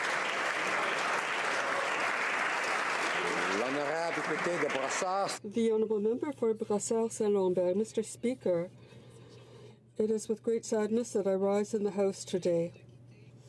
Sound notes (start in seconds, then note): 3.0 applause